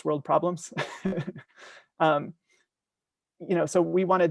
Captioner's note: laughing